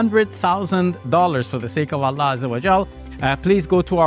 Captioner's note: speaks in Arabic